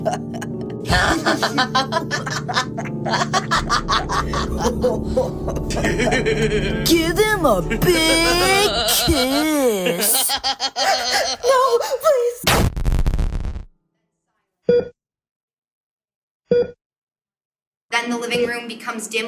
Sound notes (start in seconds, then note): 0.0 laughter; 12.5 crunch; 14.1 heart Monitor